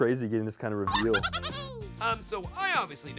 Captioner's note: Marshmallow laughs